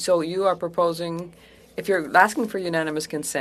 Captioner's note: speaking french